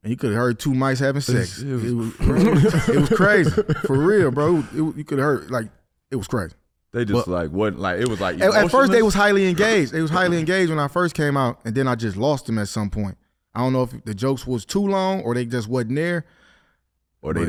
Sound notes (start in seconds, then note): 1.8 laughing